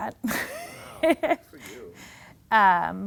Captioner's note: laughing